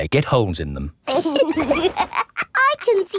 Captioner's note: laughs